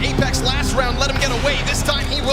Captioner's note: gun firing